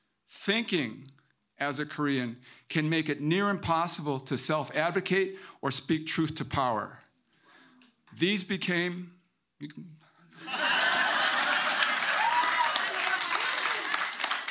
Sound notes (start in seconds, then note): 10.4 audience laughing and clapping